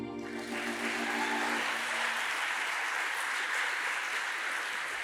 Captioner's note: audience applauds